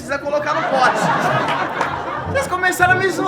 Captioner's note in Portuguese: risadas